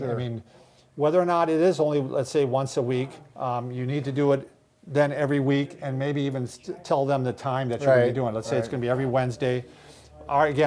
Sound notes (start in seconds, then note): none